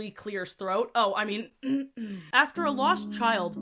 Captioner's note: actually clears her throat